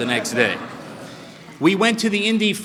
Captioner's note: laughter